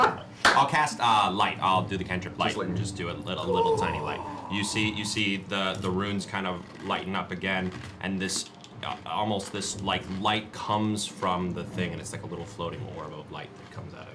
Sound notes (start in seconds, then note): 3.4 gasps